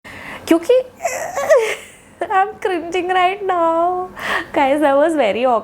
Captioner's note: groans